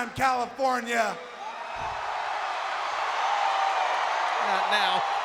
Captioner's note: audience cheering